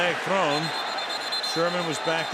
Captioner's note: whistle